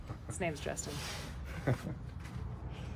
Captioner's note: laughs